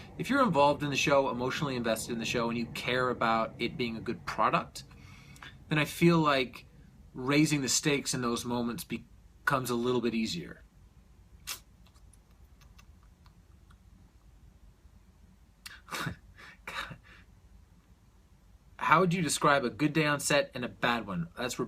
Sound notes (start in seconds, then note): 15.1 chortles